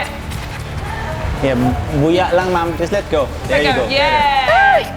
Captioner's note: speaks in local language